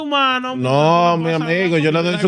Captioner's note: speaking Foreign Language